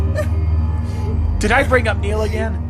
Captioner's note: crying